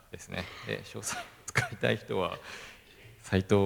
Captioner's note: laugh